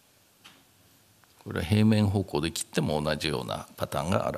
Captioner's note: speaking japanese